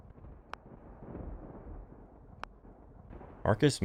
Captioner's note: thunder rumbling